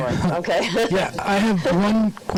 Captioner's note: laughing